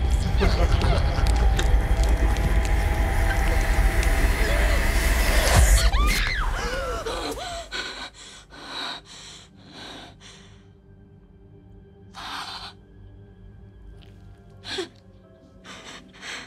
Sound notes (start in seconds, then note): 0.0 demonic Laughter; 5.5 screams